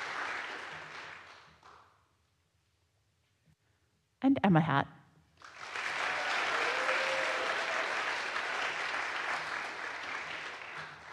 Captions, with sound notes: And Emma Hatt. (audience applauds)